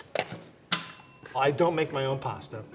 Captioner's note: bell ringing